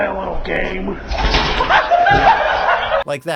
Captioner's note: everybody laughing